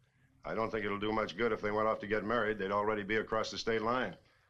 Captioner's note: none